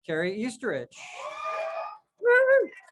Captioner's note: crowd cheers